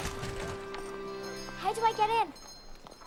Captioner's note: door rattling